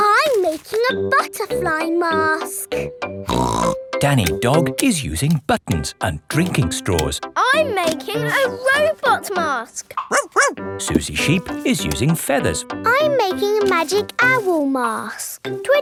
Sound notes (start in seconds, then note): 3.3 snorts; 10.0 barks